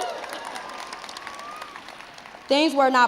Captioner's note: crowd cheers